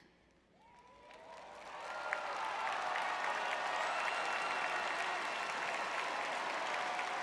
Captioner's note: audience cheering